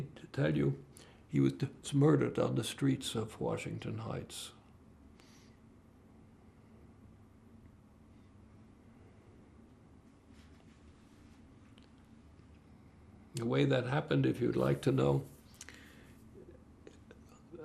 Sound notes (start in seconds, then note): 5.5 pauses 8 seconds